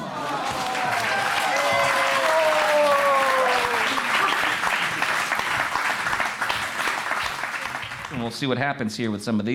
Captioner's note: applause fades in